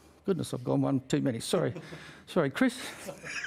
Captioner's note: laughs